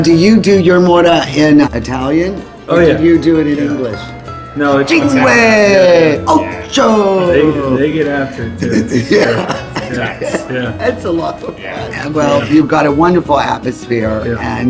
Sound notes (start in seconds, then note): 5.6 speaking in foreign language